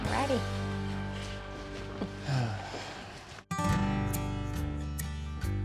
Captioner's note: footsteps